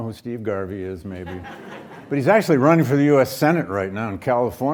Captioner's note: audience laughs